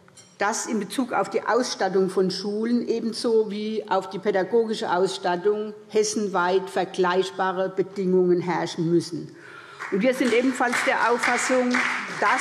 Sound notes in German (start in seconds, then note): 9.7 Beifall SPD